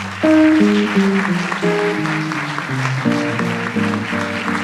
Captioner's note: audience applauds